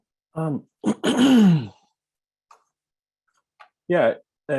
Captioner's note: clears throat